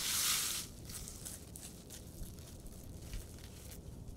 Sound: material rustling

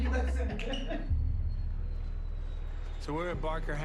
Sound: laughter

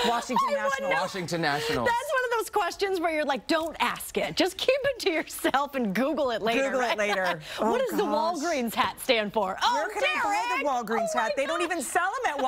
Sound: laughter

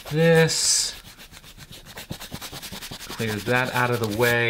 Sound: rubs on paper

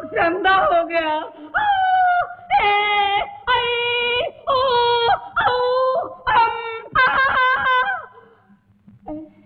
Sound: groans

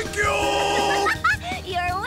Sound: laughing

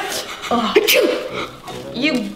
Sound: laughing; sneezing

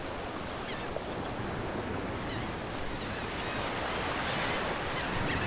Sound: waves

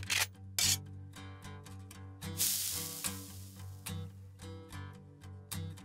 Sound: sizzle

